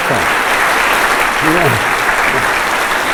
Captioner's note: applause